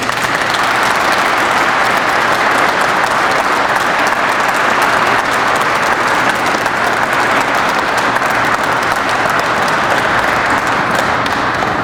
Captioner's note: crowd applauds